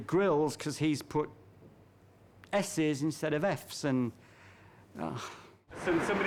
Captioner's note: sighing